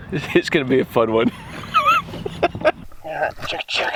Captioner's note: laughing